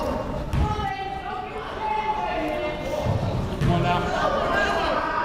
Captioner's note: players shouting